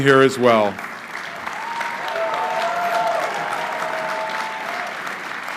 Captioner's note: crowd cheering